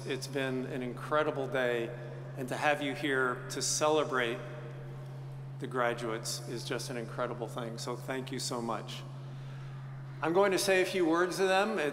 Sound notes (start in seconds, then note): none